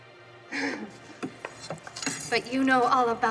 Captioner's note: Lillian laughing